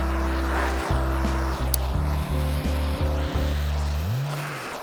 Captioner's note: engine revving